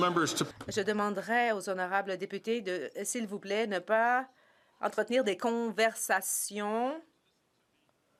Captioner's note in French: voix de l'interprète; voix de l'interprète